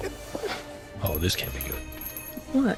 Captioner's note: doorbell jingles